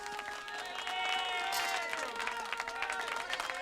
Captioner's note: applause